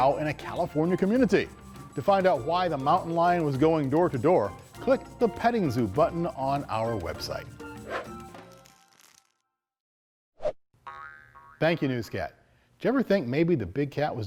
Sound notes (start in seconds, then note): 10.9 ball boinging